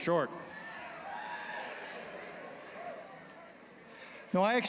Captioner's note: cheering